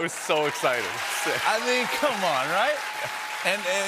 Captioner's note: cheers and applause